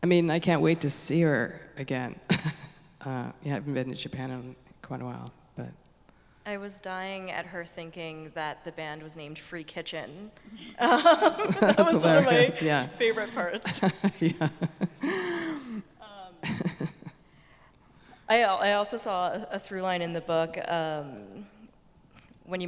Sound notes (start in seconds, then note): 14.2 laughing